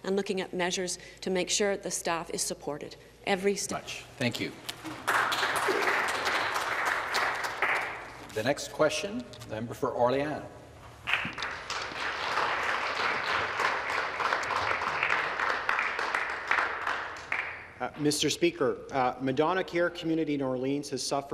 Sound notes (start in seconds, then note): 11.0 some Applause